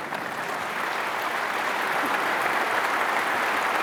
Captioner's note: applause